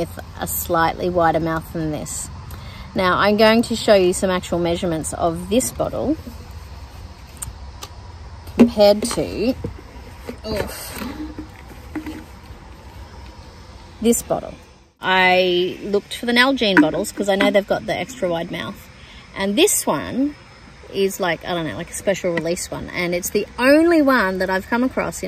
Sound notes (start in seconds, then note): 10.1 plastic bottles clank together